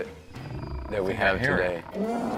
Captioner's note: bear growling; dog squealing